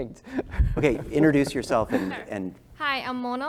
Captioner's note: laugh